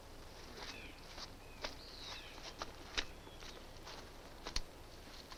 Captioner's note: distant birds chirp